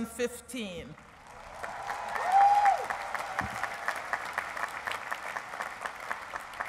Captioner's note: cheering and applause